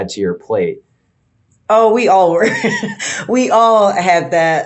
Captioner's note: laughing